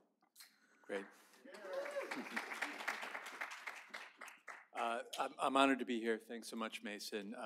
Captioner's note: applause